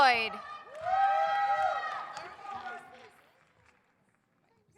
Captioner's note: audience cheers